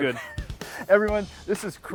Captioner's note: laughing